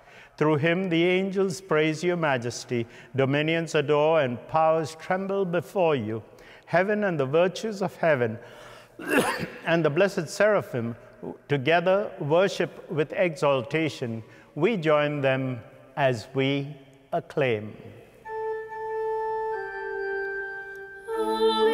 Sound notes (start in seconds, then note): 9.0 coughing